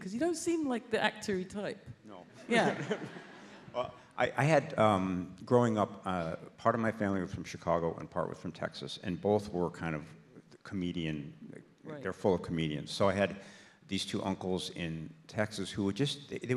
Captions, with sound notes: 'Cause you don't seem like the actor-y type. - No. - Yeah. [audience laughs] - Well, I had growing up, part of my family was from Chicago and part was from Texas, and both were kind of comedian. - Right. - They're full of comedians. So I had these two uncles in Texas who would just,